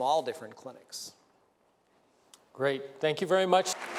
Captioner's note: applause